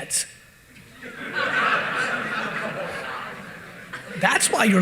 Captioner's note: audience laughing